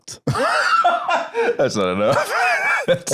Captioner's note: laughs